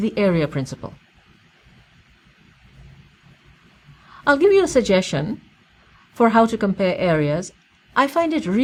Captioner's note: pause